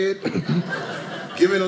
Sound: audience laughing

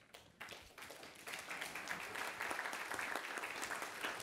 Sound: participants applaud

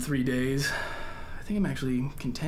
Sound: sighs

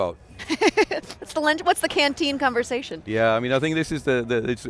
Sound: laughs

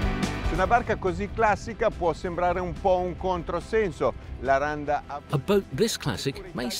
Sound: speaking in foreign language

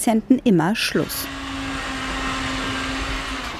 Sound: loud buzzing

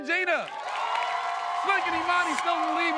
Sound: cheering, applauding

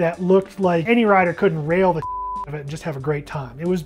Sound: beep

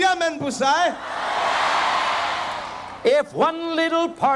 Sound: crowd cheering boisterously

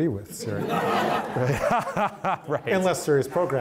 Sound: all laughing

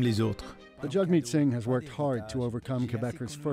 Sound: speaking French

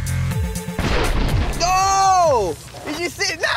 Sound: dramatic electronic music; paint ball splatters

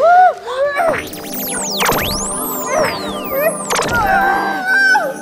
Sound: magic sounds

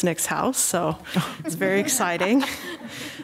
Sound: group laughing

